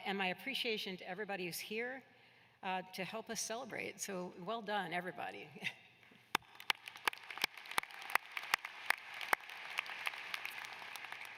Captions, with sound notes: MY APPRECIATION TO EVERYBODY WHO IS HERE TO HELP US CELEBRATE. SO WELL DONE, EVERYBODY. [APPLAUSE]